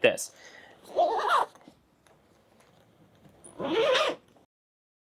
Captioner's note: squealing